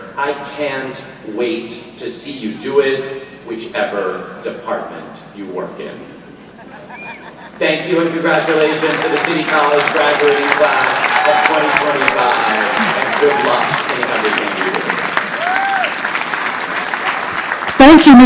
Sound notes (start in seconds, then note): 6.4 audience laughing; 14.9 audience applauding